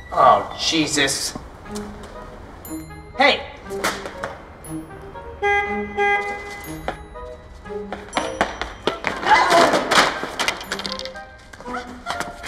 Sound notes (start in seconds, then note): 5.5 car beeping; 8.8 items tumbling